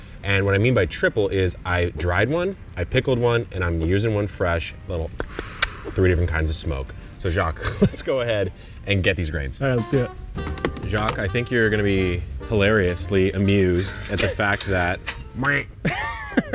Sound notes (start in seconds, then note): 5.2 clicking tongue; 7.6 laughing; 15.0 making comedic sound; 15.8 laughing